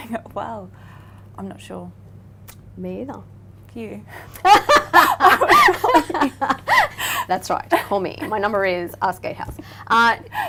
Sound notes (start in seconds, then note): 4.3 both laughing